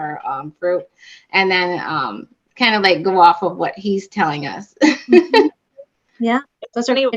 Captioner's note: laughter